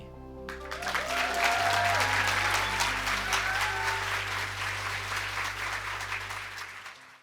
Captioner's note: cheers and applause